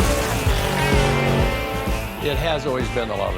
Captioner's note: engine racing